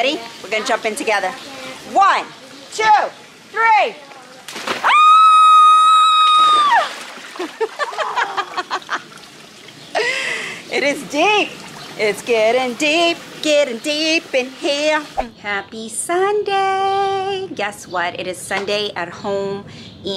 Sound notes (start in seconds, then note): 4.4 squealing; 7.4 laughing